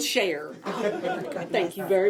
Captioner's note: group laughing